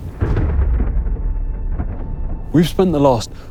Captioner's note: thunder rumbling